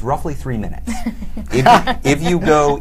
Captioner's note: laughter